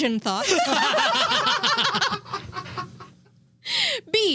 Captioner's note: laughing